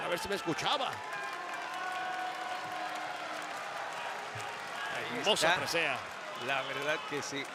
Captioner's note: applause